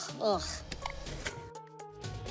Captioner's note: clicks